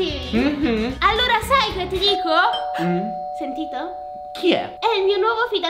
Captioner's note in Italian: suonano al campanello